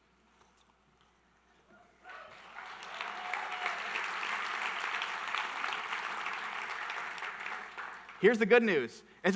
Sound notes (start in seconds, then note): 2.0 audience applauding